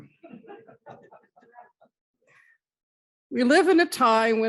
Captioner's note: audience laughs